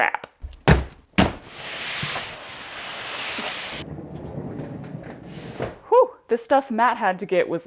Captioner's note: thud, thud, swish, swoosh, whirr